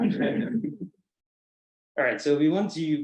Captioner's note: colleagues chuckle